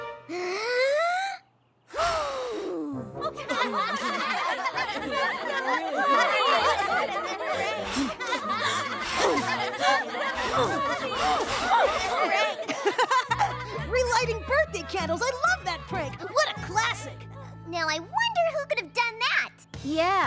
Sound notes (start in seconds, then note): 0.3 inhales deeply; 1.9 blows; 3.4 laughter; 7.6 blowing; 12.9 laughs